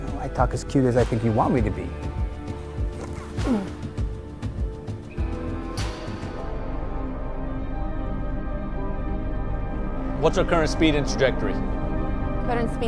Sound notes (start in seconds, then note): 2.8 David grunting; 6.5 pensive music